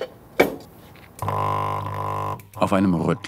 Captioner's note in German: Dröhnen